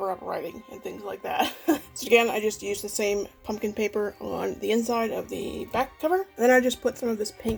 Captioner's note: laughs